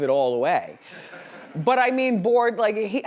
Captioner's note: laughs